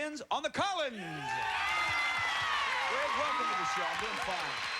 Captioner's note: cheers and applause